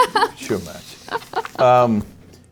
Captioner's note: laugh